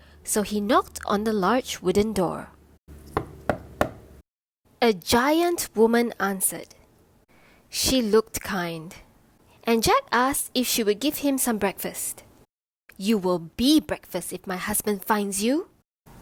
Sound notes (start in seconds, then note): 3.1 knocking